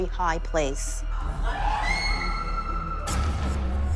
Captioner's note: woman screaming